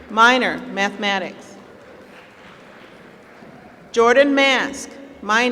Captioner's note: applause